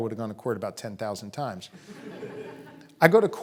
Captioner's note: audience laughing